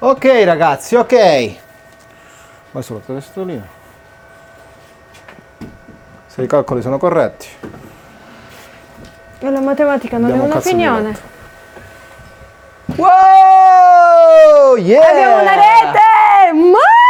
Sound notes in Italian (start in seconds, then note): 12.9 urlo